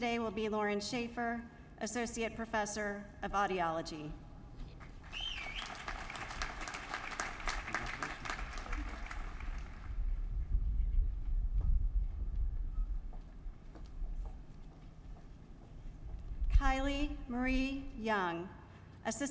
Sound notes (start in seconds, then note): 4.8 applause